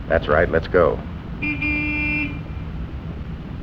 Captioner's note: car horn